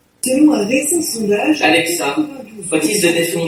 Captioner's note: sound of people talking